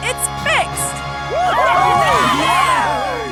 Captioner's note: cheering